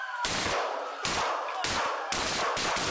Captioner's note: sirens